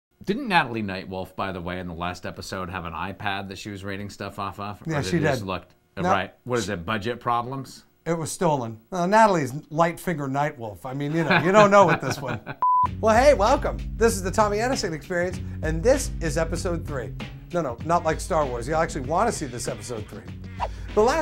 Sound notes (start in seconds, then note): 11.0 laughs; 12.6 test card beeps